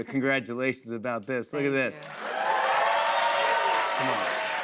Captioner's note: cheers and applause